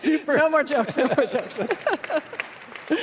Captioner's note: applause